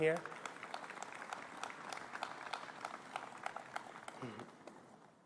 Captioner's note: applause